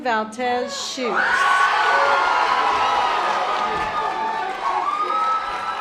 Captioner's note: audience applause